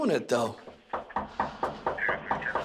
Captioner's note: suspect knocking